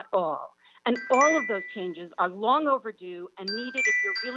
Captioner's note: chime